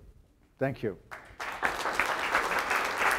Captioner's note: applause